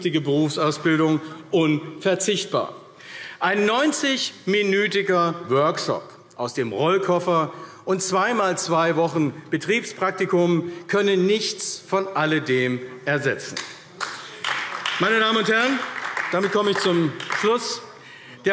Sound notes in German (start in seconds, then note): 13.9 Beifall AfD